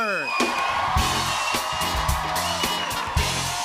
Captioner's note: cheers and applause